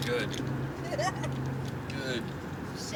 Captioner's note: blonde woman laughs